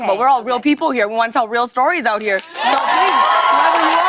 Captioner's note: cheers and applause